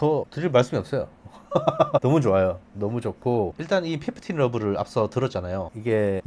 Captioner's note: laughs